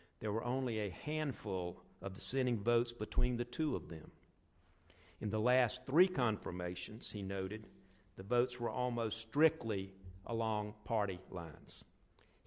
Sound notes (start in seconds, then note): none